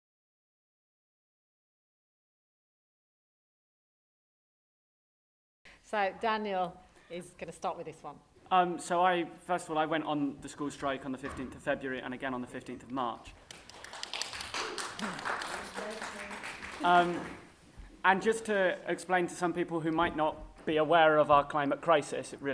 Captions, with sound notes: So Daniel, you can start with this one? So first of all I went on the school strike on the 15th of February and again on the 15th March (applause) And just to explain to some people who might not be aware of our climate crisis